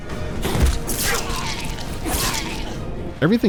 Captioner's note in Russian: предсмертный хрип